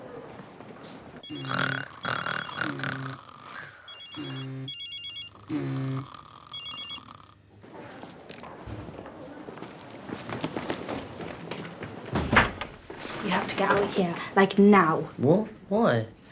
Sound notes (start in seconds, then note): 1.2 ringing and snoring continue; 5.4 ringing